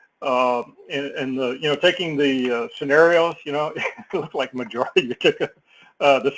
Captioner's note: laugh